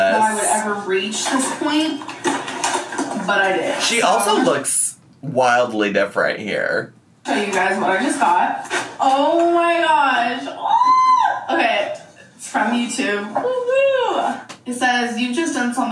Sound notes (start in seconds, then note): 10.5 squeals